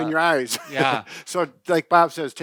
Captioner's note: chuckles